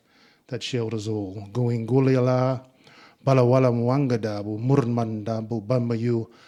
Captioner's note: speaking in Ngunnawal